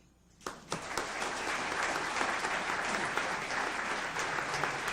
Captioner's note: audience applauds